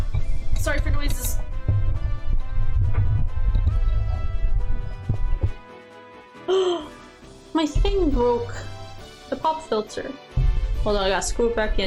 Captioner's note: horrible mic adjustment sounds